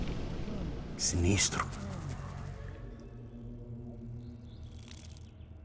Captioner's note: foreign language